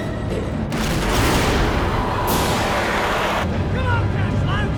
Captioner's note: explosion booms